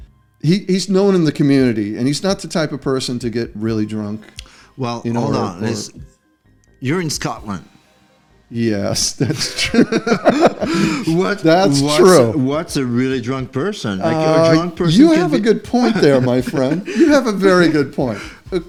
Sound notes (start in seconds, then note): 9.1 laughter; 14.9 laughter